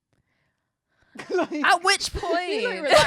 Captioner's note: chuckles